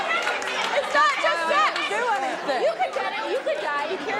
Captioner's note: audience outrage